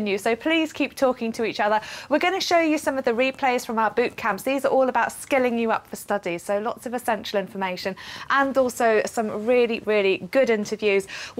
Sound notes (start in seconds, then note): none